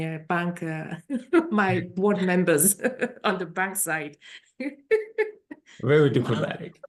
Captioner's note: laughing